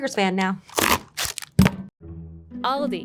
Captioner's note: box rasping; patty thudding